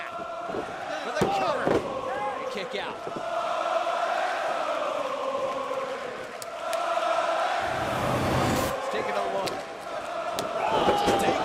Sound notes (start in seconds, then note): 5.1 crowd chatter